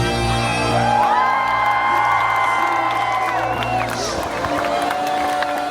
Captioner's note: cheering